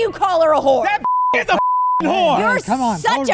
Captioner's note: beep; beep!